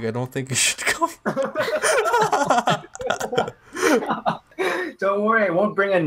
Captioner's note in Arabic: يضحكون